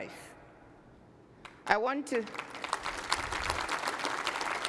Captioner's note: applause